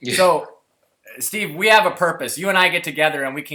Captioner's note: laugh